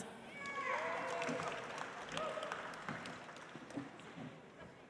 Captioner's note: audience applauds